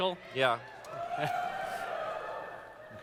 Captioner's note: audience cheers